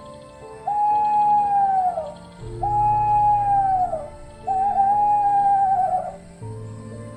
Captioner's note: Qorneluis HOOTS IN ANSWER